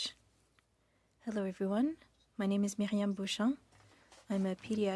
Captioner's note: speaking French